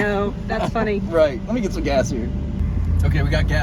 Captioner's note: turn signal